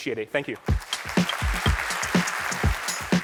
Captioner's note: applause